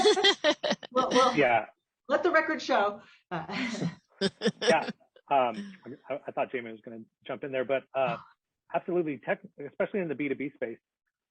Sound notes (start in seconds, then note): 4.2 laughs